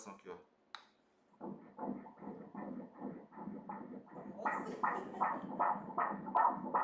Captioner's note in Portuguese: batimentos cardíacos